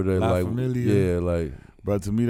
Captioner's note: speaking in foreign language